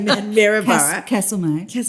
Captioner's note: laughter